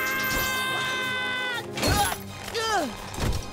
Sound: grunting

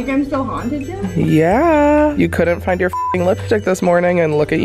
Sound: beep

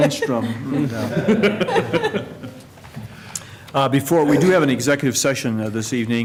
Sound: laughter

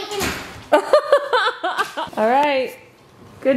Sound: laughs

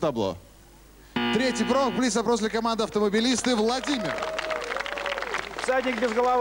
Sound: applause

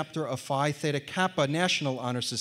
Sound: none

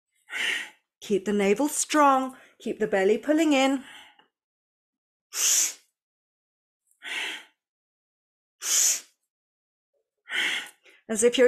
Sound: breathes

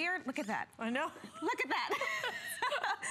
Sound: laughter

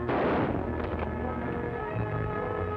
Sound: gunshot

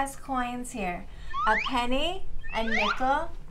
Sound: swoop sound

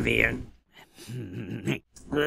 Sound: snickering continues

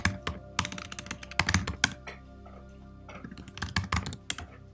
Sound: keyboard clicking

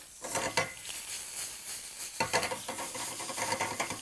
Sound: pan sizzles

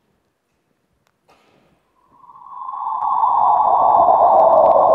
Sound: black hole sound

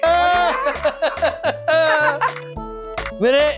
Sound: laughs

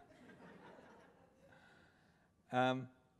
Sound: laughter

